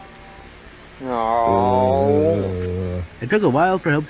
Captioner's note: groaning